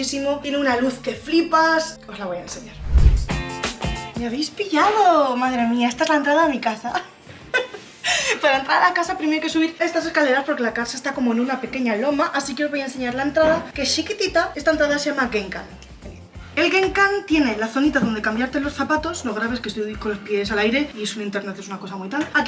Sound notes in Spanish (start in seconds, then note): 7.2 risas